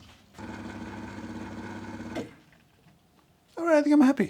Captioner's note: coffee machine whirring